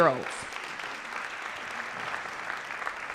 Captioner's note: applause